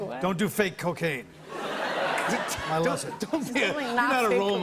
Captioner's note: laughter